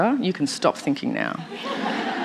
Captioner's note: laughter